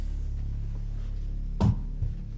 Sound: door opens

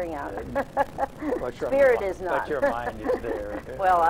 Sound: laughs

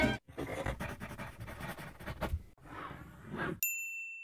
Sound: pencil writing; zipper zipping; bell chimes

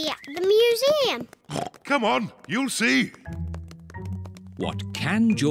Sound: oinks

